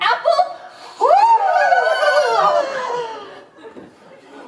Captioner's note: all four Cores scream and swoon